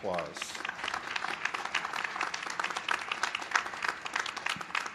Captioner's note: applause